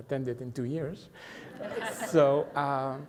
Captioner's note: everyone laughs